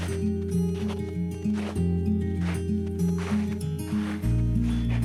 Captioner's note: snowshoes crunching; soft music